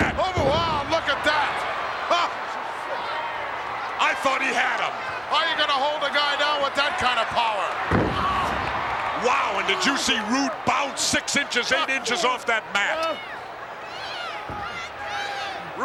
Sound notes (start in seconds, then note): 7.9 wrestler thudding; 13.4 crowd shouting